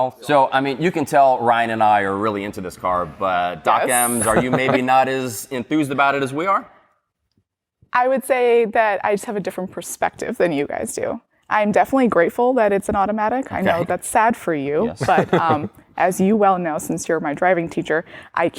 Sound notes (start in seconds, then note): 15.0 chuckles